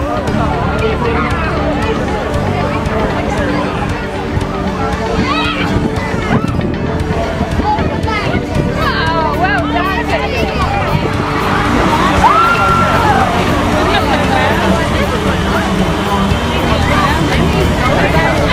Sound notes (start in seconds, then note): 10.7 cheering